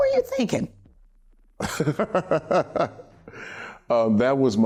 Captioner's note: laughter